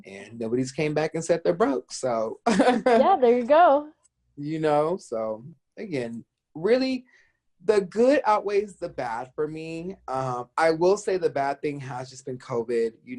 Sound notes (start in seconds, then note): 2.0 chuckles